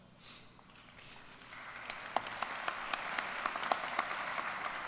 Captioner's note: applause